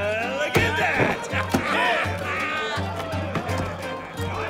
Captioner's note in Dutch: mannen lachen